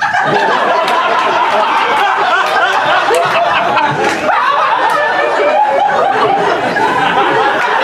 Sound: weird voice; laughter

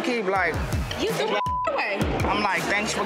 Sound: beep

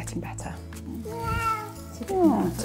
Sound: meows

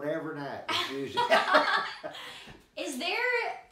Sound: both laughing

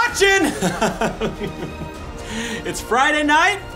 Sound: laughing

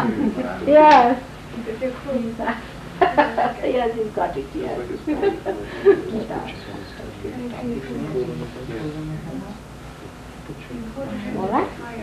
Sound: laughing

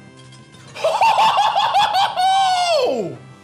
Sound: laughs

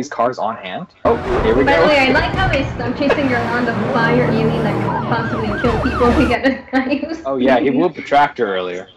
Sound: laughs

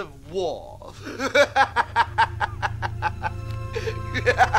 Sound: laughing

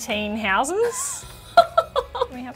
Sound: laughs

